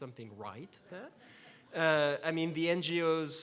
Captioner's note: laughs